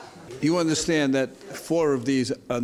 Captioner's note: laughing